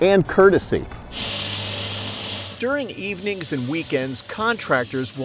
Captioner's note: spraying noises